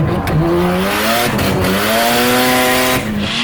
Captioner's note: engine revs; tires squealing; engine revs